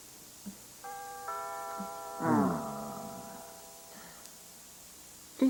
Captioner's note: doorbell